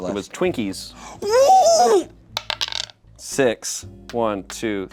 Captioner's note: gasps